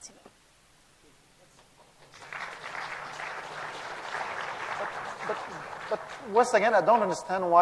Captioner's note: applause